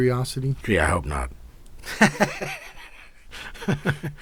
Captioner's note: laughs